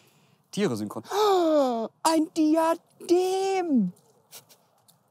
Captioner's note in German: hyperventiliert